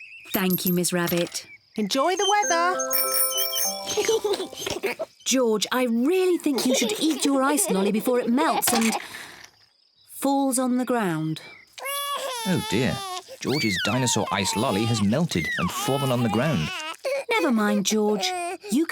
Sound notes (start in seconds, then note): 2.0 rings bell; 3.9 both giggle; 11.9 cries